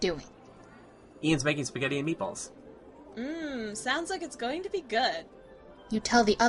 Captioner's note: sound effects